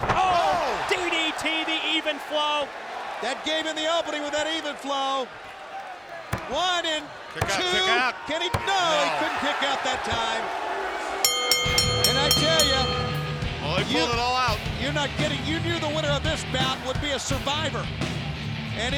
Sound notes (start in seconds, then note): 11.2 bell rings